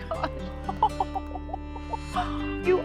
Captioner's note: laughing